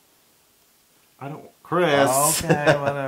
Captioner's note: laugh